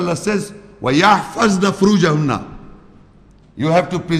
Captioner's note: Arabic